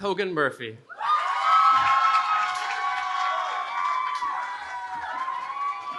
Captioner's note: cheering